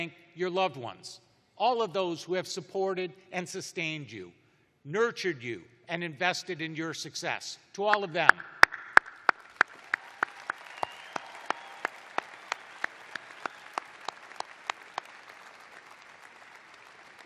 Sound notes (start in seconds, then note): 3.6 applause